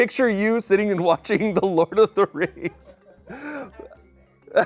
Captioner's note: laughs